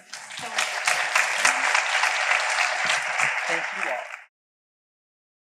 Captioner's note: audience applause